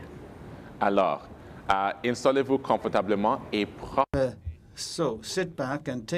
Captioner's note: speaking in French